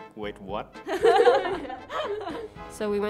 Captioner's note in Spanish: riendo